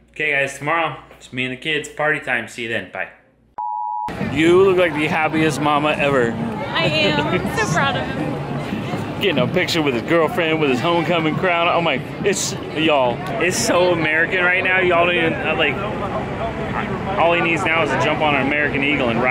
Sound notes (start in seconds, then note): 3.6 beeping